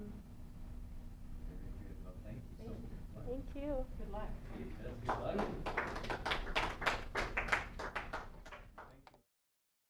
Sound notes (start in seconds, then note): 5.0 applause